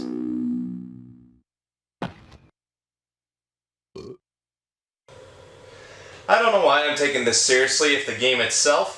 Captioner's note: burp